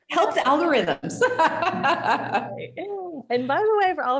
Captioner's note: laughing